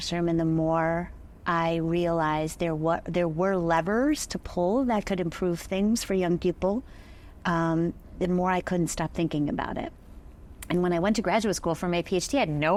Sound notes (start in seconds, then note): none